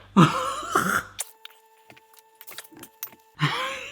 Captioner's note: laughing